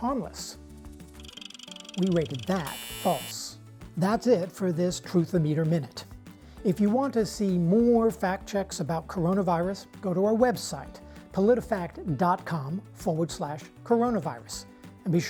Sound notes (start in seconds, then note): 1.0 machine buzzes; 1.2 machine ticking